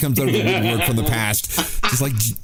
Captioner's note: laughter